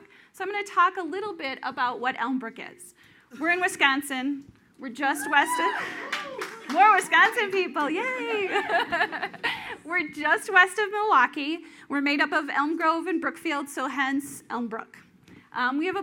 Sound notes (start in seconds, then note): 5.2 audience cheers